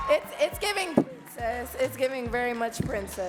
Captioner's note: audience cheering and clapping